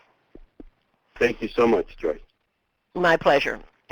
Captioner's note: voiceover